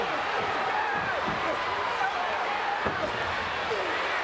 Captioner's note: crowd cheers